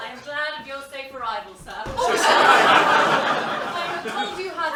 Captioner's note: laughter